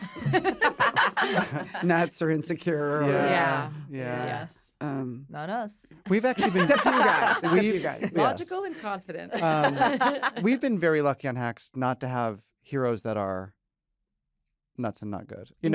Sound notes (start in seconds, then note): 0.0 laughter; 2.9 all agreeing; 6.2 laughter